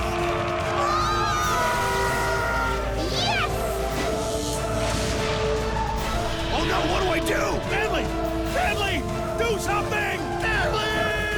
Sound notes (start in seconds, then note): 3.8 electricity crackles